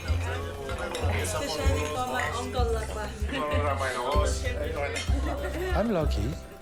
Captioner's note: glasses and bottles clinking; overlapping chattering